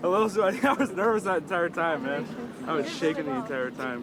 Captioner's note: laughs